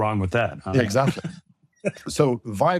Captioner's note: laughs